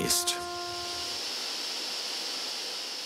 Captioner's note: hiss